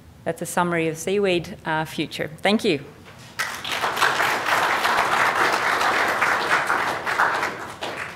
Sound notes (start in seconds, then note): 3.3 applause